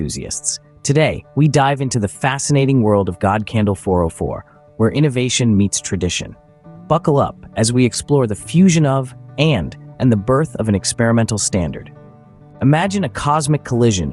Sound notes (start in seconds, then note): 3.2 enthusiastic Voiceover